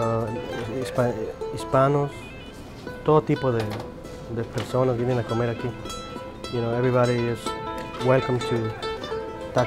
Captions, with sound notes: (speaking in foreign language) You know everybody is welcome to